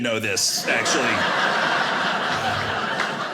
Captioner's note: audience laughing